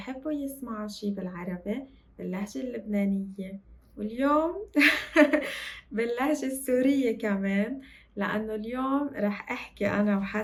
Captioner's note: laughs